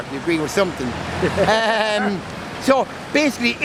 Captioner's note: laughs